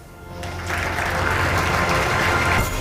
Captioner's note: applause